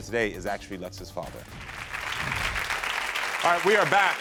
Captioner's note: audience applauding